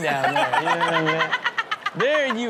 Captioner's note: Chanel laughs